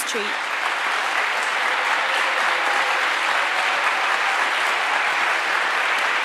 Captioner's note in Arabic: الجمهور يصفق